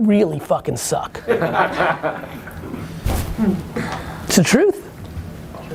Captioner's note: laughs